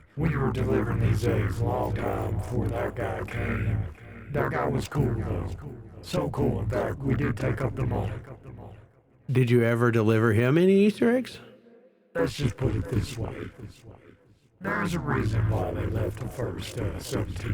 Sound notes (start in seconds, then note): none